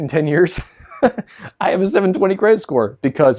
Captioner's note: laughs